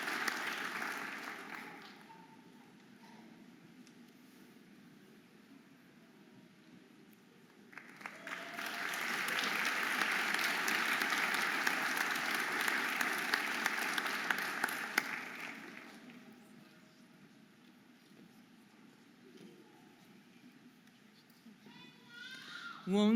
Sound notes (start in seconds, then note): 7.7 audience applauding and cheering